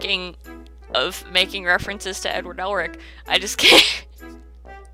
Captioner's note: laughs